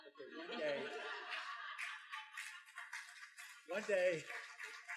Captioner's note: student laughs